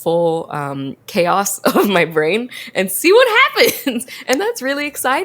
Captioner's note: laughs